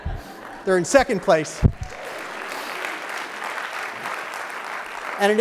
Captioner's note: clapping